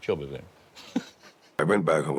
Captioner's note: laughs